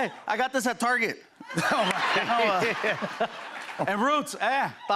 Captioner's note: laughter